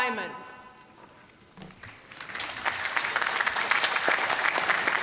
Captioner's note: applause